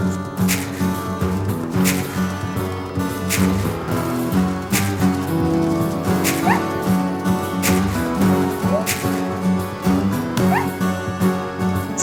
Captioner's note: elk Screaming Sounds